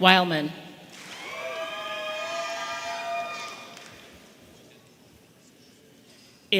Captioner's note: audience applauding and cheering